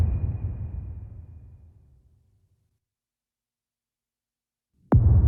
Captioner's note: dramatic sound